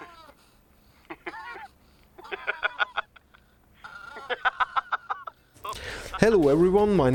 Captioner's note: loud laughter